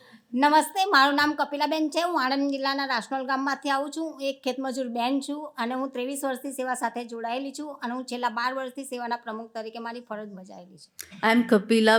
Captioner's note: speaking gujarati